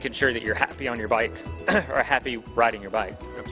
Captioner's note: clears throat